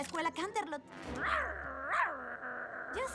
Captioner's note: snarl